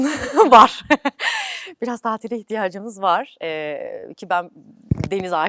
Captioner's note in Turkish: kahkaha